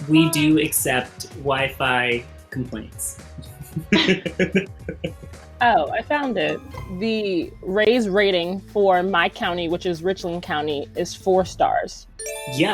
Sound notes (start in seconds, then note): 3.5 laughing